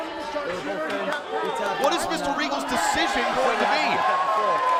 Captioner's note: crowd chatter; crowd cheering